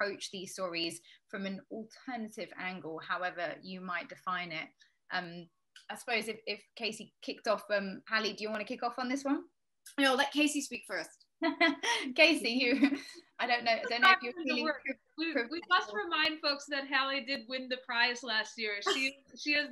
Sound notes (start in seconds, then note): 13.7 audio distorting; 13.7 laughing